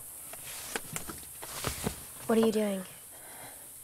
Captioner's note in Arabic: none